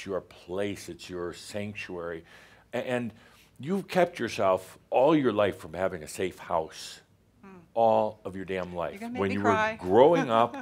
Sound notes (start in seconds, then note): 9.8 she chuckles